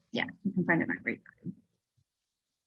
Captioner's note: voice muffling